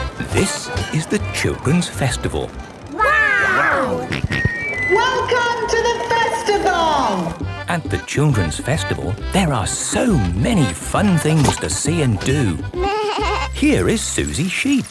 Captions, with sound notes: - This is the Children's Festival. Wow! - (on microphone) Welcome to the Festival! (jolly folk music) - At the Children's Festival, there are so many fun things to see and do. - Baaa! - Here is Suzy Sheep.